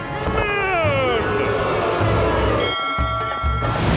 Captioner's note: booing